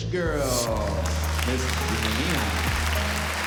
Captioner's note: applause